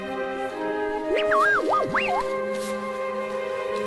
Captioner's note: confused beeping